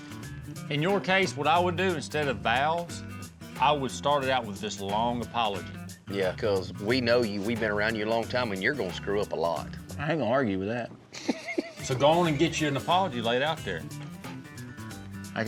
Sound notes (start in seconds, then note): 11.1 chuckling